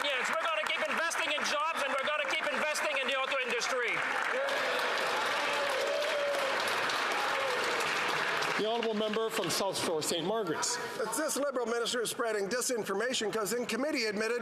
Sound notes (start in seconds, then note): 9.7 some Applause